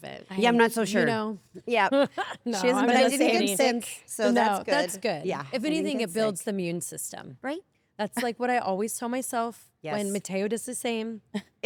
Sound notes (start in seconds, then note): 2.2 laugh